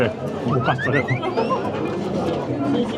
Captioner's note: laughter